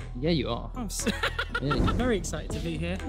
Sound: laughing

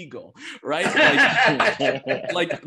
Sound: all laugh

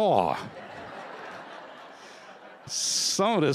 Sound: laughter

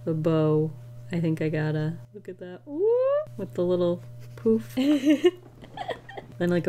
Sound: giggles

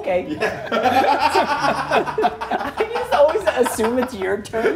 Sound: laugh

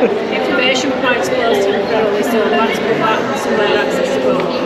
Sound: crowd Chattering

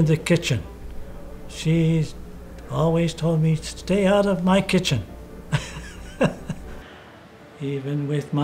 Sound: laughs

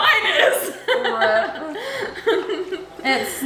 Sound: laughing

